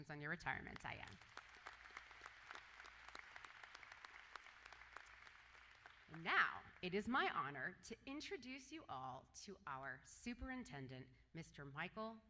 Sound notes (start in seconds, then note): 7.1 applause